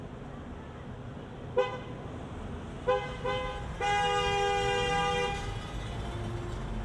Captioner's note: vehicle horns honking